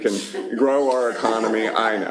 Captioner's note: laughter